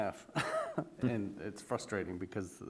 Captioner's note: laughs